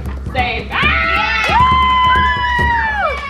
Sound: woman screams playfully; cheering

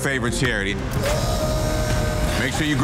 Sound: dramatic music; lift whirring

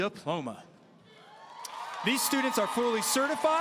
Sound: audience cheering and applauding

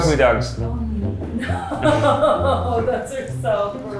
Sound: laughs

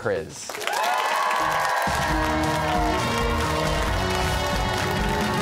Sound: cheers and applause

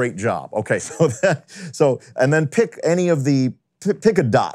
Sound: laughing

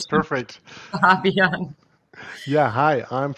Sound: laughs

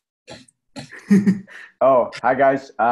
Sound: laughing

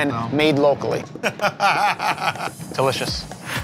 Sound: laughter

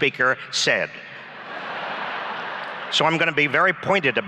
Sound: laughs

